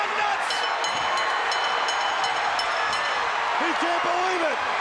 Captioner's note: bell ringing